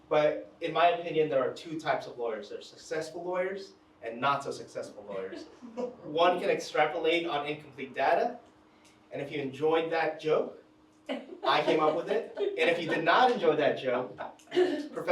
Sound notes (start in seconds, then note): 5.1 attendees laughing; 11.4 attendees chuckling